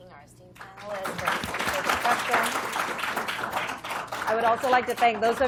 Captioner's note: applause